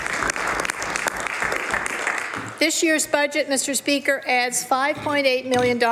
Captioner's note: some Applause